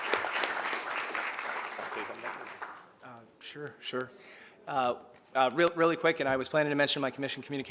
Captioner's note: applause